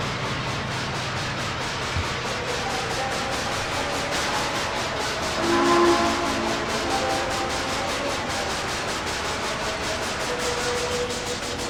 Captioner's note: chuffing, FRISCO 1522 Whistle